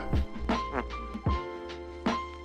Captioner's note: 𝘴𝘮𝘢𝘭𝘭 𝘧𝘢𝘳𝘵